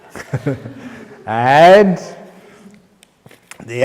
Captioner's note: laughter